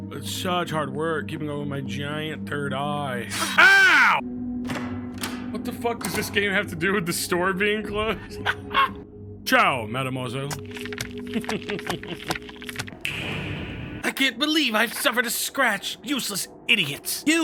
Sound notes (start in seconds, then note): 3.3 metal slices; 8.0 Skull laughs; 11.4 laughs